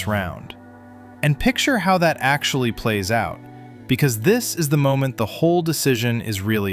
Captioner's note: thoughtful